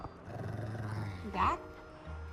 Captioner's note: Bruce growling